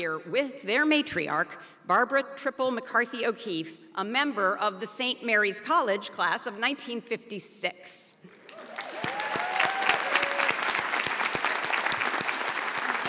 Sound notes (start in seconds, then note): 8.4 audience applauds